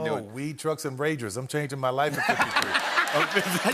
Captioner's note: laughter